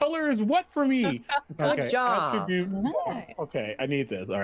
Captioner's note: laughs